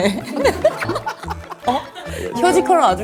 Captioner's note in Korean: ㅋㅋ